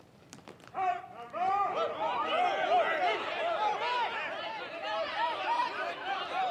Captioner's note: Commandants de troupe et officiers crient